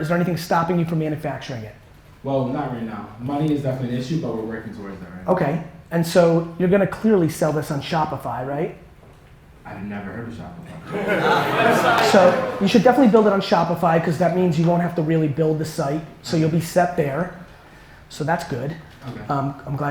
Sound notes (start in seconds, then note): 10.8 audience laughter